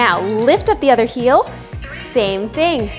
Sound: timer beeps

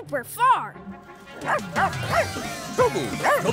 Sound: barking

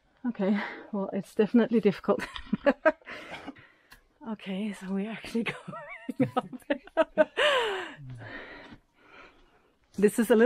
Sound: laughing

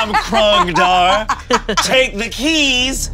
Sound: laughing

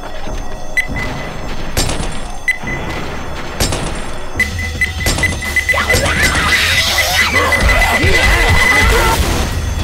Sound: pipe bomb ticking down

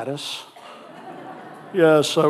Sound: audience laughing

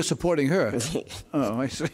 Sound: laughs

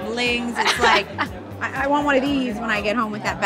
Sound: laughs

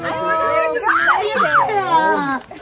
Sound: happy squealing

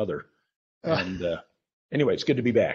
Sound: chuckles

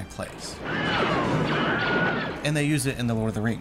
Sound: scream

